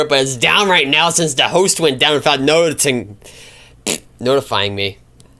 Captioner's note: pbbt